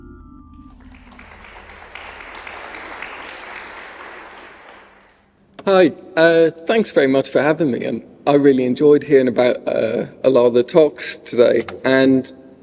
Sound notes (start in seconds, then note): 0.6 applause